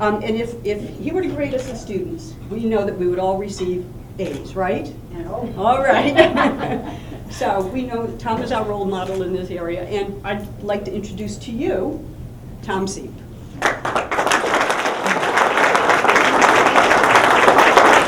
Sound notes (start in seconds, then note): 5.8 laughter; 13.6 applause